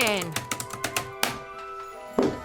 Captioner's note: typing stops